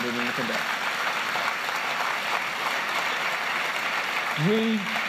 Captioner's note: applause